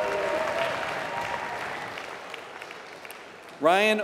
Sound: applause

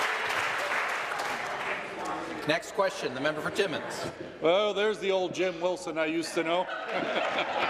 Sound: applause

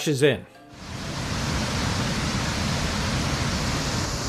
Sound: water gushing

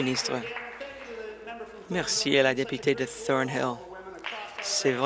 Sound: applause

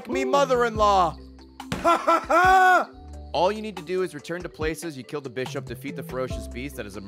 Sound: laughs

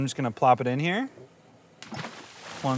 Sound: water sizzles

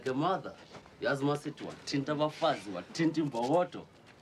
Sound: speaking Swahili

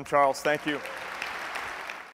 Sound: applause

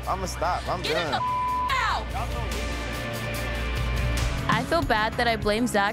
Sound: beep

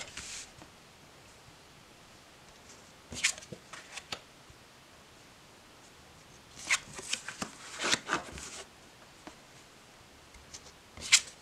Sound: cards flipping

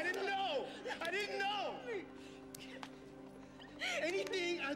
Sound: hand slapping

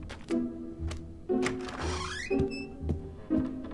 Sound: door creaks open

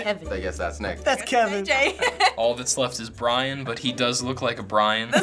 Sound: laughs

